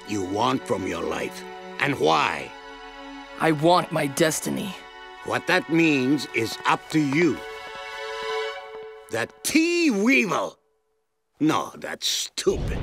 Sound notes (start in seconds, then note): none